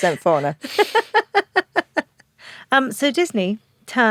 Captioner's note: Giovanna laughs